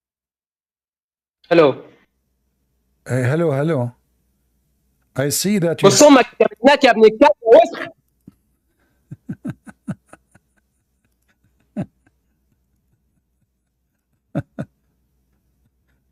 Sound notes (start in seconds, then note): 9.0 Ketawa